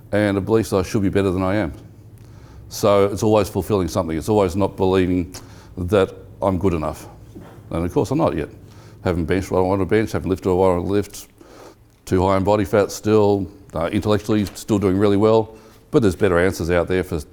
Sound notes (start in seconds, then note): none